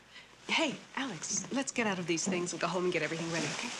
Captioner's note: none